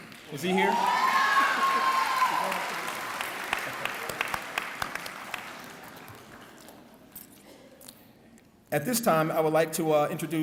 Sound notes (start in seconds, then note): 0.0 clapping